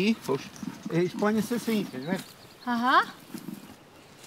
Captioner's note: speaks Portuguese